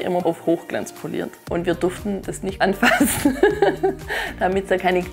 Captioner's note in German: lachend